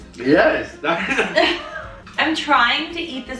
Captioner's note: laughing